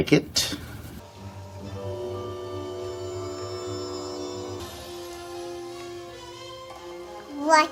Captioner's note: Incredibles playing on TV